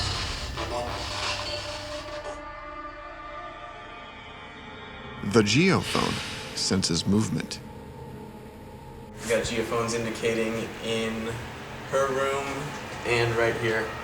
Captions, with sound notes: - [Voiceover] The geophone senses movement. - We got geophones indicating in her room and right here.